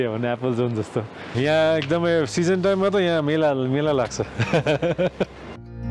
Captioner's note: laughs